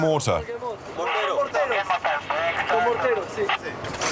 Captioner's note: French spoken audio